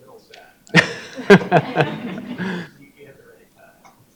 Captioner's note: audience and chuckling